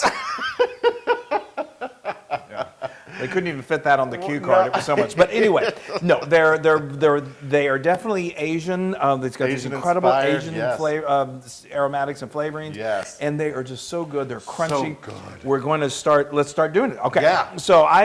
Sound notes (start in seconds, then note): 0.0 laugh